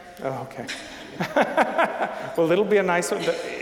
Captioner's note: laughing